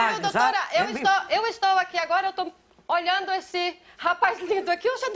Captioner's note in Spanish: habla en portugués; habla en portugués